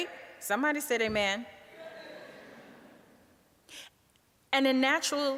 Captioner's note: audience laughing